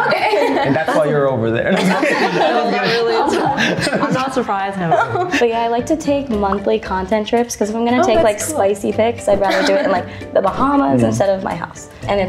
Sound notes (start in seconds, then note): 1.6 everyone laughs